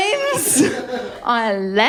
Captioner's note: laughter